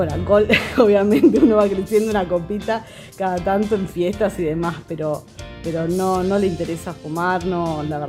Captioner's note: laughs